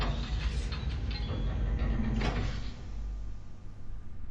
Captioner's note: metal bolt turning